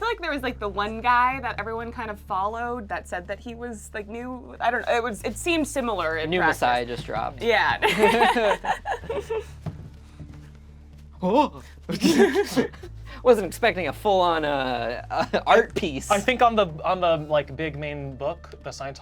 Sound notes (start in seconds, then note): 7.8 laughs; 11.9 group laughs